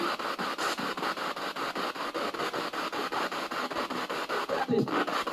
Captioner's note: radio noise from the spirit box